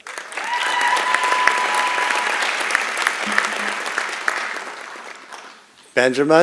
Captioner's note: applause and Cheering